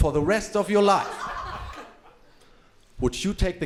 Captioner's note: crowd laughing